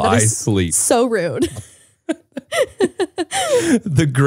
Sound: laughing

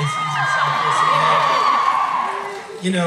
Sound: cheering

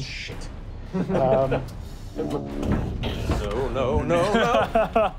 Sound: laughing

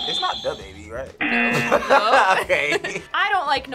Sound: buzzer sounds; laughs

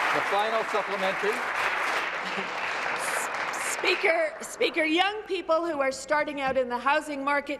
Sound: applause

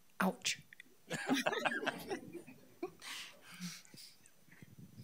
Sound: people laughing

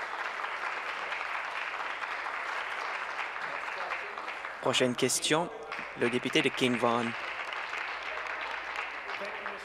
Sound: applause

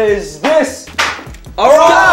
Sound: smack

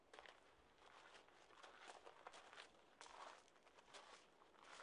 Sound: gravel crunching

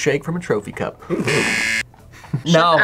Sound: buzzer rings

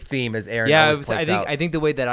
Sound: murmurs

